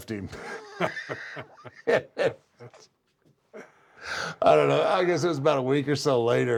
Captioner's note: laugh